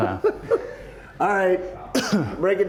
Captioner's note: laughs